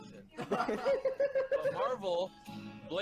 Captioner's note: laughing